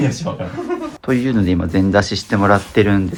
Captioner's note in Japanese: 笑い